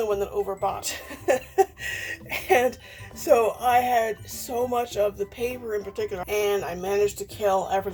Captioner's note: laughs